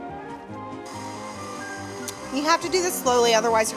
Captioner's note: mixer whirring